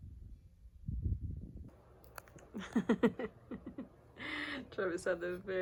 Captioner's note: laughters